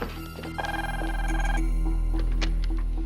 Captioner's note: phone ringing